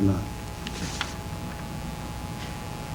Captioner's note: papers rustling